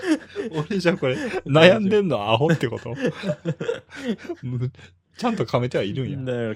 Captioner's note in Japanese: 笑い